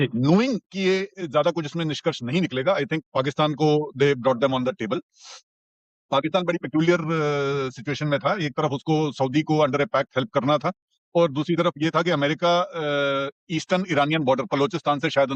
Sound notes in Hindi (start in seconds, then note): 5.1 नाक से की जाने वाली आवाज़